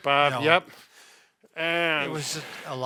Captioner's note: breathes heavily